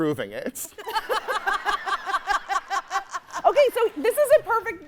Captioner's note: hosts laughing; audience laughing